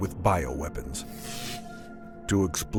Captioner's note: electricity crackling